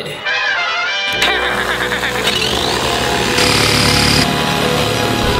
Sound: jigsaw roaring

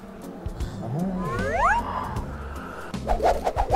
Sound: surprised

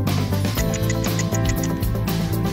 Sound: ticking

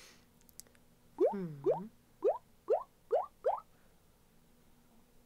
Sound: plop, plop, plop, plop, plop, plop

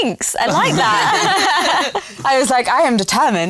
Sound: laughter

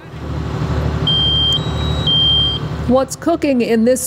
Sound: smoke alarm blaring

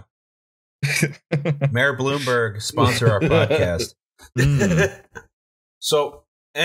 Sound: laughter

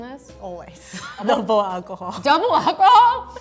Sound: laughing

